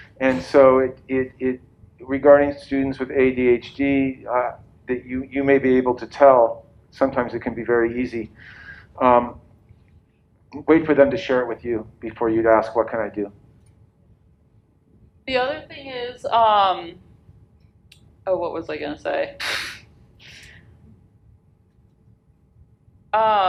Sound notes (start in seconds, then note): 19.7 laughs